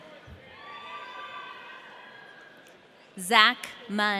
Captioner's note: audience cheering